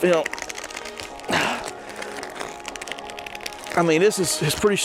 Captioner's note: film squeaking